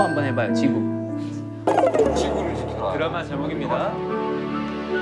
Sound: frustrated

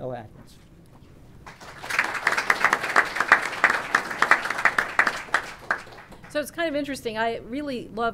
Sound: applause

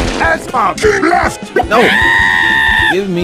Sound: screaming

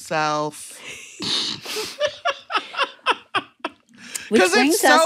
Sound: laughter

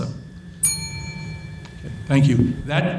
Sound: bell dings

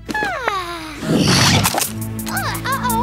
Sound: exclaims; gasps

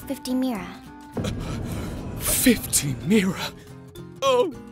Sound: gasp

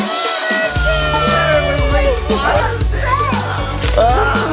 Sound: group exclaiming

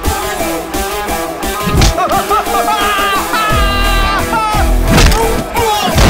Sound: groaning; rumbling

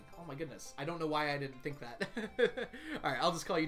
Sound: laughs

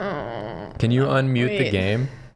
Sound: groan

